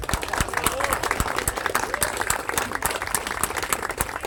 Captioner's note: applause